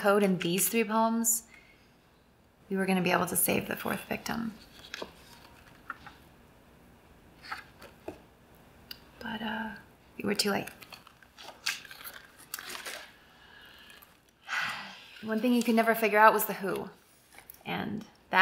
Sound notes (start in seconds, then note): none